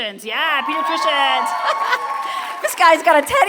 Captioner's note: applause